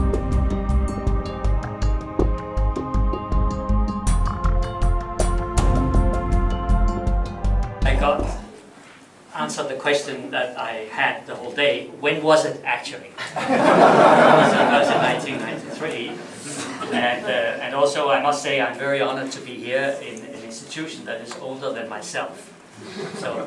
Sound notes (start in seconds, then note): 13.2 laughter